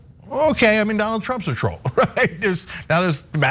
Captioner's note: laugh